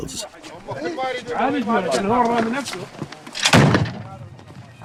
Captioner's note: Arabic spoken audio